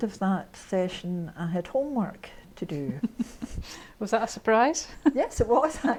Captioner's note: both laugh